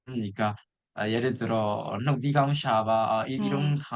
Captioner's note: said in Burmese